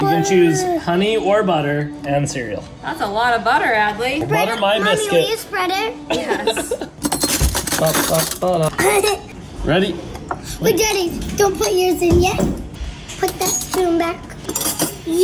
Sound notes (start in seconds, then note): 6.1 laughing; 6.9 silverware clinking